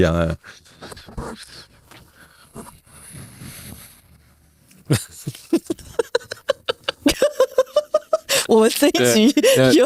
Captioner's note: laughing